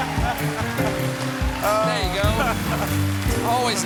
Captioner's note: applause